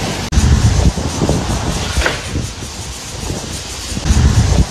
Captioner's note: sound of a tree falling